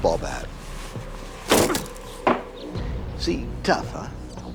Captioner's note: bat clunks